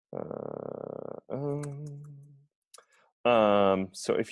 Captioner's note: hums